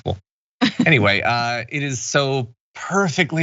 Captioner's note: laugh